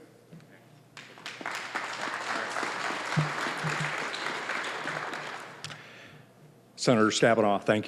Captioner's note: applause